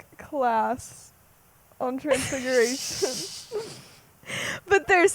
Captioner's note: laughs